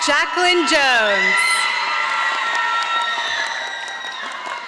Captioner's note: audience applauding